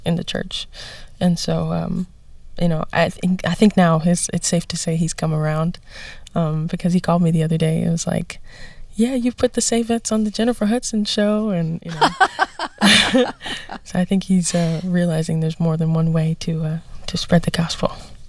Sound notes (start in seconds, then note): 11.8 laughter